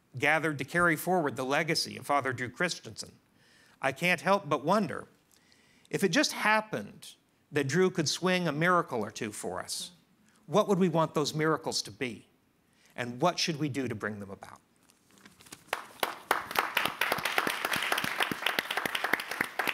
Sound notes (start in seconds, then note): 15.6 audience clapping